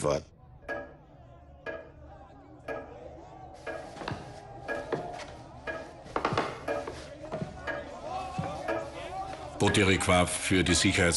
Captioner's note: hammering sound